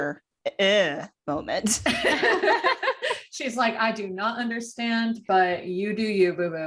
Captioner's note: laughter